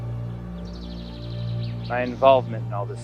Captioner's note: birds tweeting; ominous music